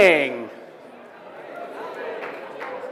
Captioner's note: cheering; applause